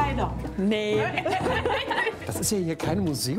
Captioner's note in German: lautes Lachen